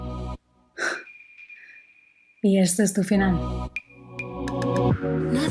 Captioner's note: suspires